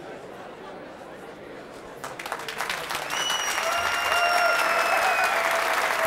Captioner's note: audience cheering